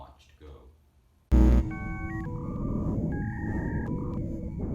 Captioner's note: buzzing